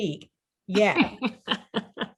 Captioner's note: laughs